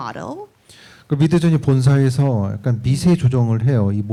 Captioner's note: speaking korean